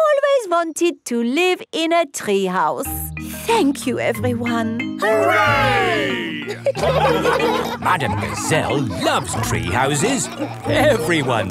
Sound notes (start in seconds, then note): 7.3 laughing